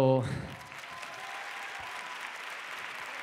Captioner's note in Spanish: Aplausos